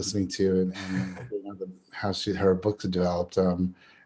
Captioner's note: audio static